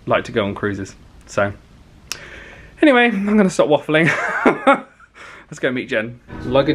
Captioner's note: laughs